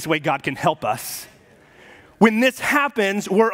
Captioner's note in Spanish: murmullos de congregación